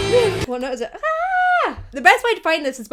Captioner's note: vocalizes